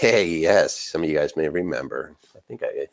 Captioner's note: laughs